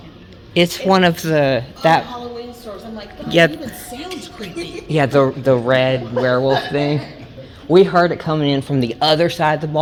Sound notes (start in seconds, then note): 5.8 person laughing